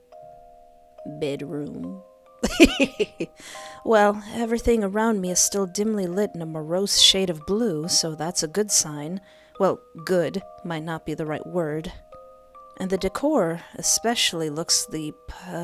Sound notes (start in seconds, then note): 2.4 hehehe